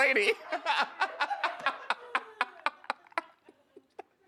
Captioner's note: co-host laughs